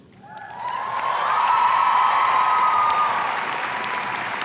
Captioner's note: audience cheering